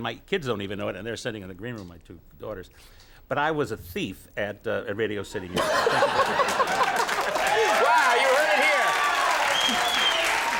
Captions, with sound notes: my kids don't even know it and they're sitting in the green room, my two daughters, but I was a thief at a Radio City here. (Conan laughs) (audience applauds) Wow. You heard it here.